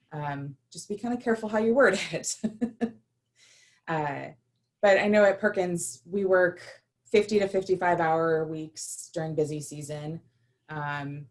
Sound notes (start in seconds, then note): 2.4 laughter